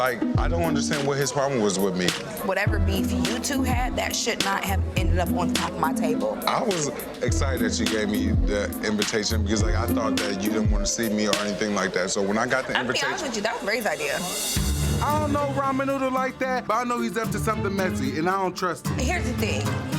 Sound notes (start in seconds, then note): 4.8 suspicious string music; 7.2 people chattering; 14.4 tense orchestral music